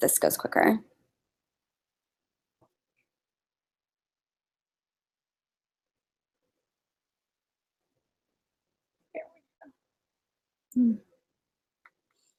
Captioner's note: silence